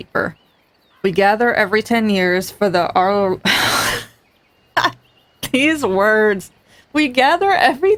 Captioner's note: laughs